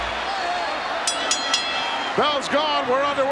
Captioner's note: bell rings